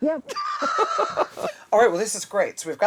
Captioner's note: laughter